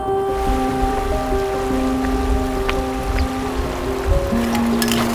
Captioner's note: water rushing